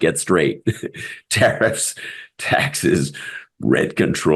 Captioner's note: laugh